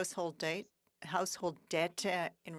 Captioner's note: speaking French